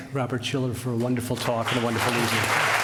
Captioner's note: applause